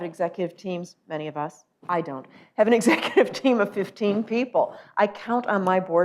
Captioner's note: laughs